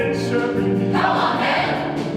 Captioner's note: shouted